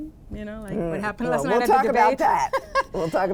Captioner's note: laughs